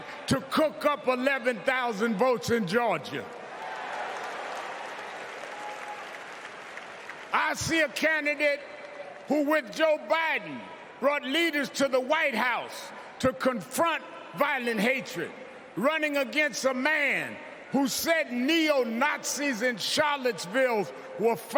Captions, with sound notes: PROTECT THE RIGHT TO VOTE WHILE THE OTHER HAS TRIED TO COOK UP 11,000 VOTES IN GEORGIA. [APPLAUSE] I SEE A CANDIDATE WHO, WITH JOE BIDEN, BROUGHT LEADERS TO THE WHITE HOUSE TO CONFRONT VIOLENT